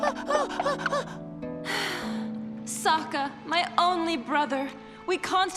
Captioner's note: sighing